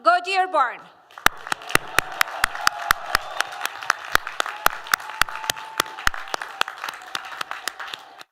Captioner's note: applause